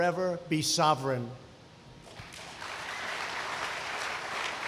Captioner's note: applause